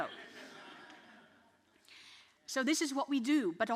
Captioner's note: audience laughs